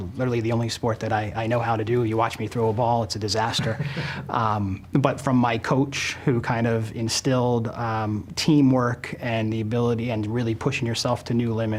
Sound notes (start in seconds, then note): 3.4 laughing